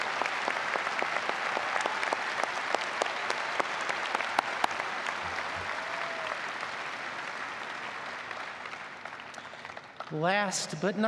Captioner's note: applause